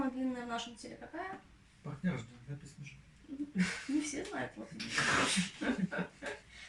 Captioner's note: laughs